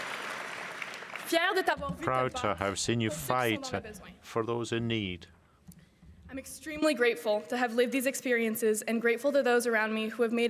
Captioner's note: cheering and applause